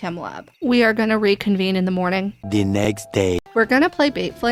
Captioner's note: french accented male narrator voice